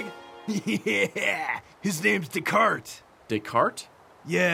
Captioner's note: laughs